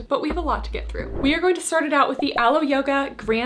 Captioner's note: screen whooshing